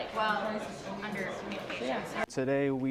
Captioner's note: crowd noise